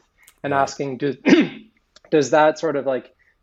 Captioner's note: clearing throat